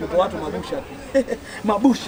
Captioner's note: laughter